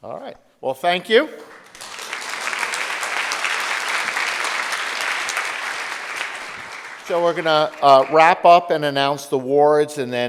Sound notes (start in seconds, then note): 1.4 audience applauding